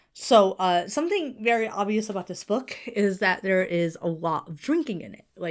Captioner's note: none